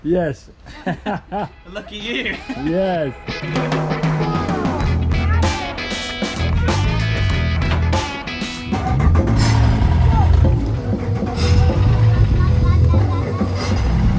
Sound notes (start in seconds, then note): 1.3 laughs; 3.7 upbeat music; 8.8 engines starting